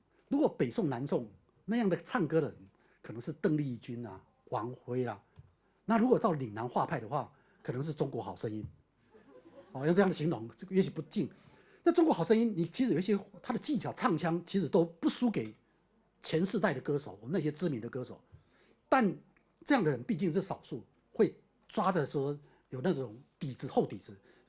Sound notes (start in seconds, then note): 9.1 audience laughter